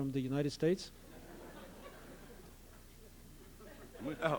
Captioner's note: laughter